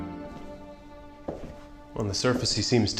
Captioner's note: footsteps